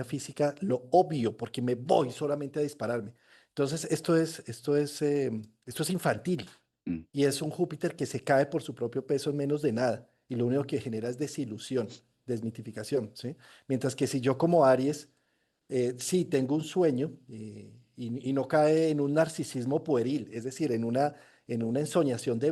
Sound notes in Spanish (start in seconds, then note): 6.8 carraspeo